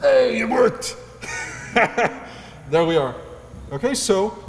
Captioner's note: laugh